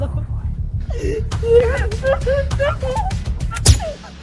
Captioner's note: Lucy screams; pistol pops